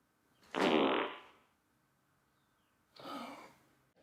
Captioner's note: Arizona farts